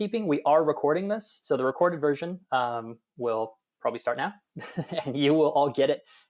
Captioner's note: laughs